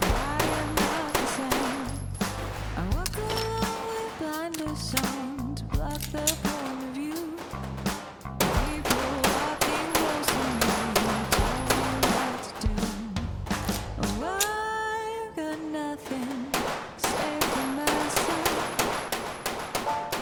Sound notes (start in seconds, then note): 7.6 gun clicking; 8.4 gunshots banging; 16.0 gunshots banging; 16.1 gun clicking